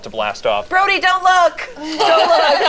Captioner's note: group laughs